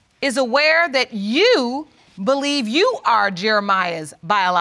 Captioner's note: none